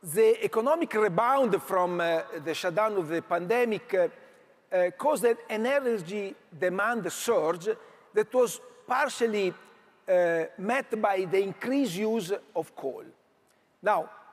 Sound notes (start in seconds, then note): none